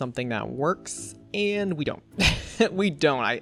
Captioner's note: laughs